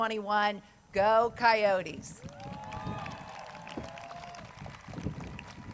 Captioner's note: crowd cheers